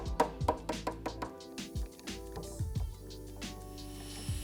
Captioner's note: mellow music; hammer tapping; mellow music